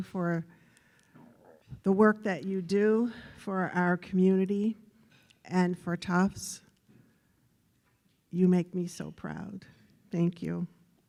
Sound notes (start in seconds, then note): none